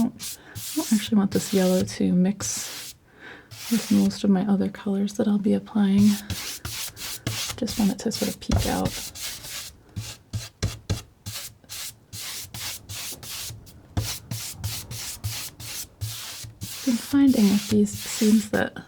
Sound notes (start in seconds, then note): 8.5 tapping